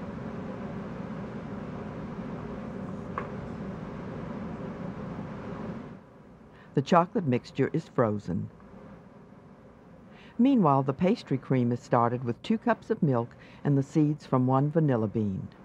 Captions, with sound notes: - [Voiceover] The chocolate mixture is frozen. Meanwhile, the pastry cream is started with two cups of milk and the seeds from one vanilla bean.